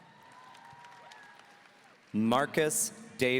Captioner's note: audience cheering